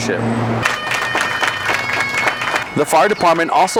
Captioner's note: people clapping